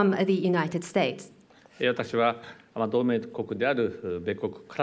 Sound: speaking japanese

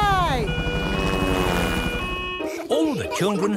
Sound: siren wailing

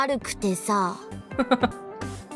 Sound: chuckles

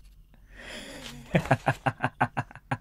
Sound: laughs

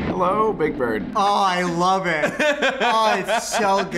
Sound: laughs

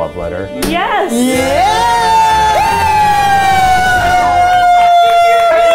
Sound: guys cheering

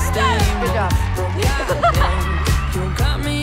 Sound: team cheering; Taylor and Belly laughing

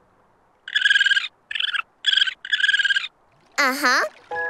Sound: chirping

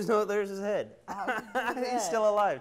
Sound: laughs

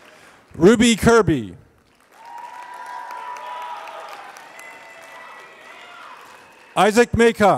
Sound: applause; applause

